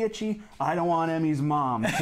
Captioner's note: laughs